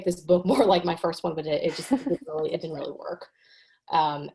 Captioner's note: chuckles